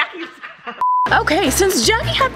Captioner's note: high pitched beep